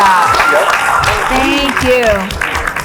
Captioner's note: applauds